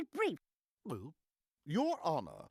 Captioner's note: gulping